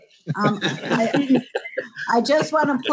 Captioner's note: laughter